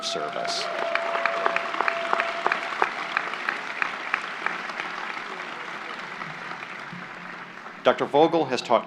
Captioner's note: applause